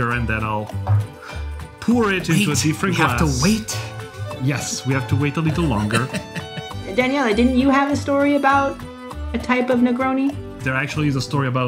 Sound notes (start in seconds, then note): 4.0 laughs